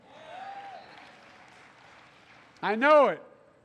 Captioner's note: applause